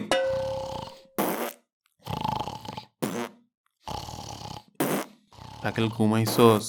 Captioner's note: snoring and farting sounds